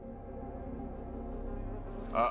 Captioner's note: fly buzzing